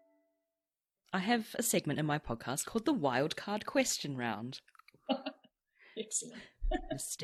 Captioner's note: laughs